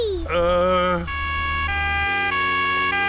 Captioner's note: siren wailing